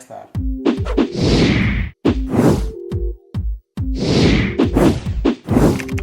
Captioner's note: mellow music; graphics whooshing